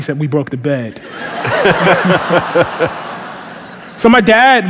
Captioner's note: laughter